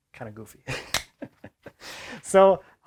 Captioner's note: man laughs